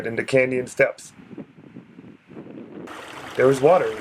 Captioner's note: running water